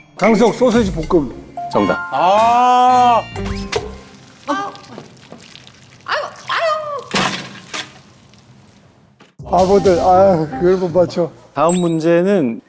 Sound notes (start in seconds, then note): 1.4 ding-ding